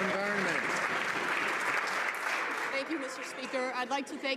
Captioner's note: some Applause